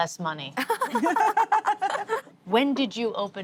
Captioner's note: laughter